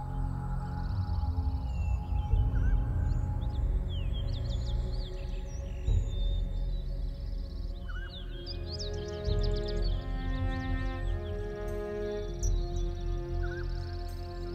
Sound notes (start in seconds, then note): 8.4 birds chirping; 8.4 suspenseful music continues